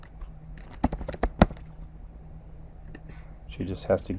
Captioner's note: keyboard thumping